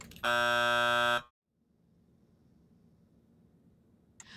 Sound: timer buzzing

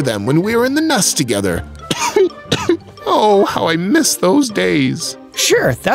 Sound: cough cough

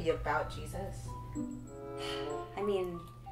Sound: Present sighs

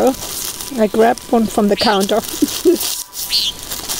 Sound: laughs

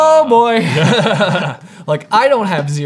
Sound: both laughing

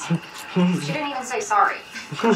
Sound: laughs

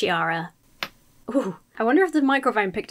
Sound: shudders; joint cracks

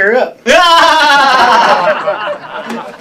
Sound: laughter

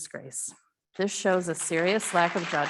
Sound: audience clapping

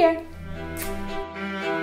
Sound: kiss

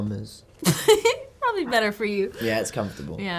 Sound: laughs

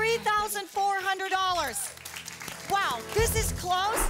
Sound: audience applause

